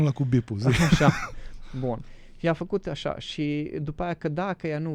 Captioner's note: laughter